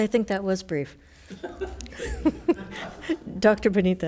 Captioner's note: members laughs